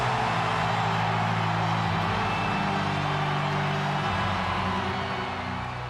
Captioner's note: tense music; crowd roaring